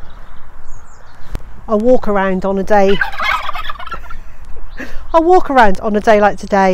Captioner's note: the turkeys make a noise